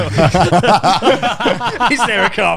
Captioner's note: laughs loudly